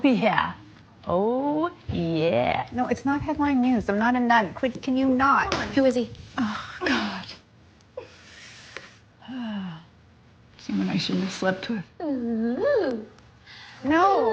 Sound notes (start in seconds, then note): 9.2 sigh